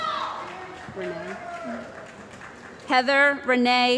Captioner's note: cheering & Applause